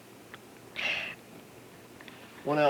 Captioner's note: inhalation; gasp